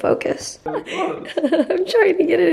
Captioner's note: chuckling